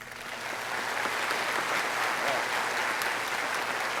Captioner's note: audience applauding